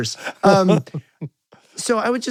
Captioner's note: laughing